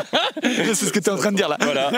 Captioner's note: laughs